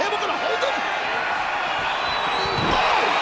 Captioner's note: audience cheering